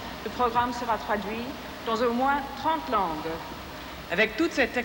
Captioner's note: speaking french